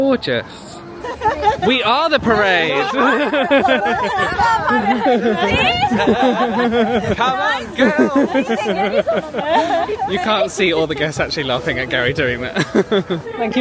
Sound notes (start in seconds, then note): 3.7 laughing